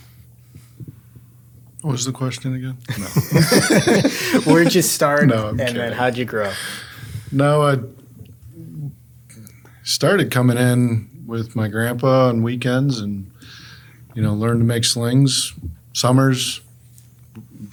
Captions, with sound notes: - What was the question again, no. (group laughs) - Where'd you start- - No, I'm kidding. - And then how'd you grow? - No, I started coming in with my grandpa on weekends and, you know, learned to make slings, summers,